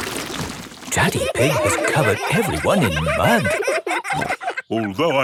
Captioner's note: all laughing